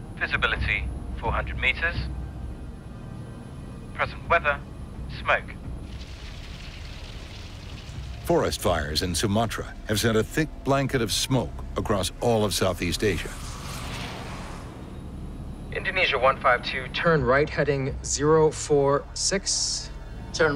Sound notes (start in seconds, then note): 5.8 fires crackling